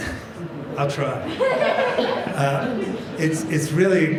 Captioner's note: laughter